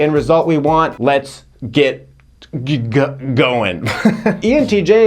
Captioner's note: laughing